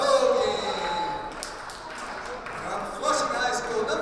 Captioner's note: cheering